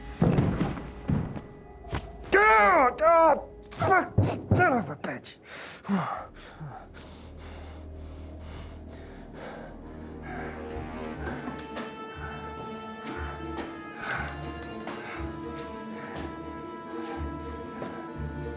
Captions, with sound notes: - (Groans) Fuck, son of a bitch.